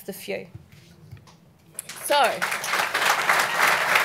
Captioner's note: clapping